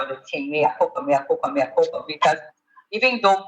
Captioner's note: speaks in Spanish